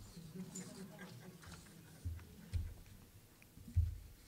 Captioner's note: audience chuckling